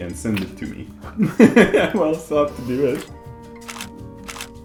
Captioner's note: laughs; shutter clicking